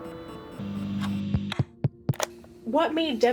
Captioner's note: tapping microphone